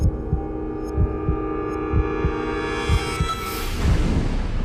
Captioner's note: heart beating